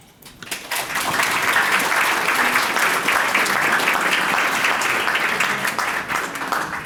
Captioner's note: audience clapping